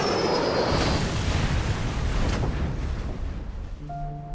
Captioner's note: plane crashes